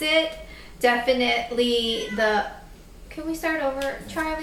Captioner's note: cat meows